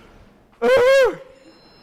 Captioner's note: howls